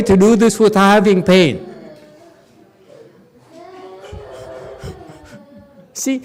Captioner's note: laughs